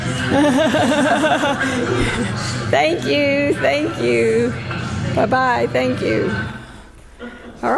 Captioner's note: pause then laughter